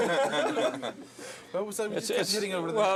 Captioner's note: laughing